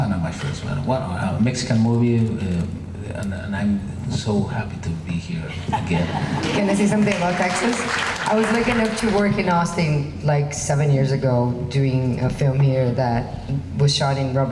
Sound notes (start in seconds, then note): 5.5 laughing; 6.2 crowd clapping